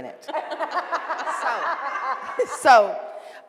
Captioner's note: laughing